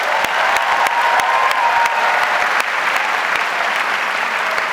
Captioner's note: audience applauds